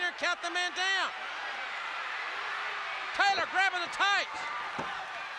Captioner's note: applause